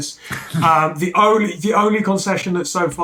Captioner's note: laughs